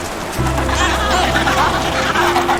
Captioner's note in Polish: terkotanie pingwinów